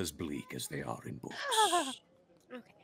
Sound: Bluejay laughs

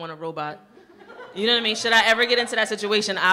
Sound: audience laughing

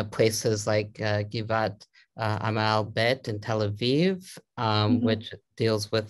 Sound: Hebrew

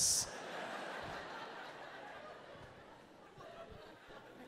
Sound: audience laughing

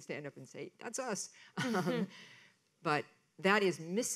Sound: laughs

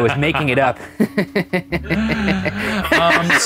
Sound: laughs sinisterly

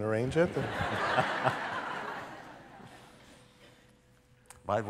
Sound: laughter

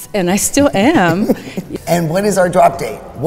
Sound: laughing

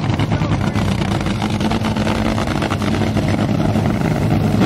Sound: engine growling

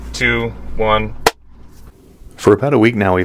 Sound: clap

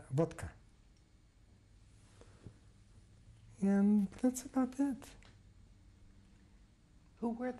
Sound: pauses for 3 seconds

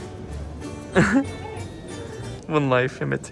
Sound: laughs

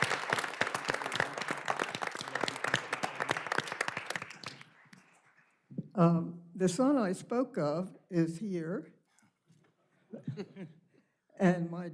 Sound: applause

